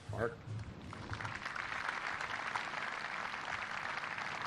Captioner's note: applause